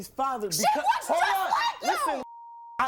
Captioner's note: beep